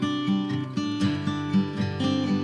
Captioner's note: none